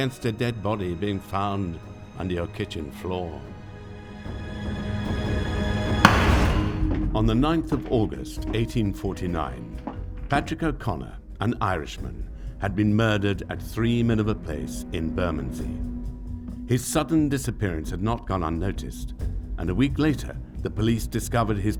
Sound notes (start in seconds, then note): 6.0 gavel bangs